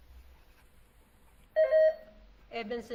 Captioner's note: buzzer beeps